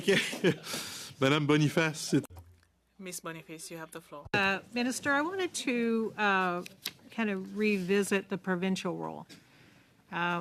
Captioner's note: laughter